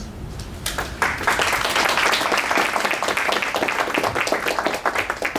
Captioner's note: applause